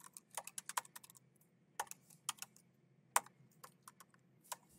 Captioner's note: keyboard clacking